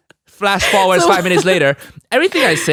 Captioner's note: laughing